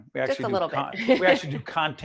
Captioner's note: laughing